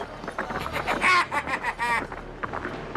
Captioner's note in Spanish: risa malvada